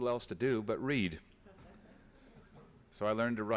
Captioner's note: laughter